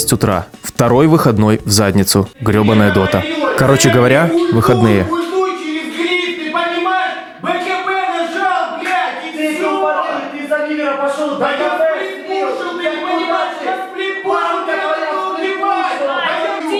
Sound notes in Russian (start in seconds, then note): 2.5 крики на заднем плане; 4.6 крики